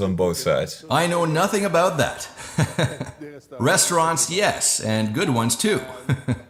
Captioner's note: laughs; laughs